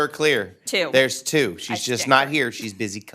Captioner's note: laughing